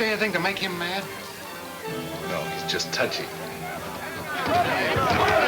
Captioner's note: men yelling simultaneously